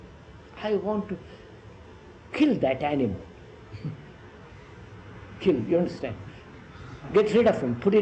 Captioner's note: laughs